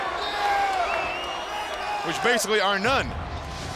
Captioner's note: crowd cheering